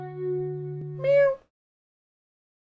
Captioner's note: human imitating a cat's meow